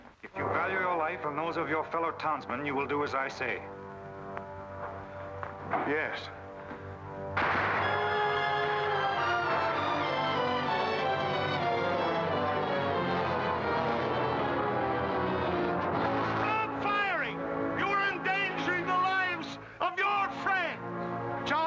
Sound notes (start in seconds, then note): 6.4 dramatic music; 7.3 gunfire